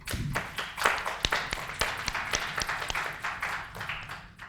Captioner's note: applauding